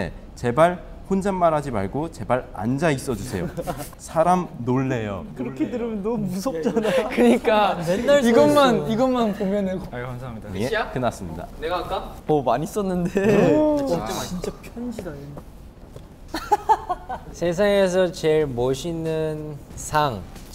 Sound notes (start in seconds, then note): 16.3 cracking up as soon as he sees it